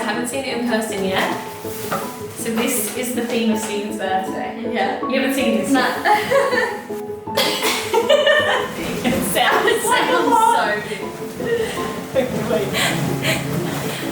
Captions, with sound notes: I haven't seen it in-person yet. So this is the theme of Stephen's birthday. - Yeah. - You haven't seen this? - No. (chuckles) (women laugh)